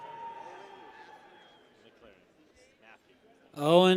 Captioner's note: people cheer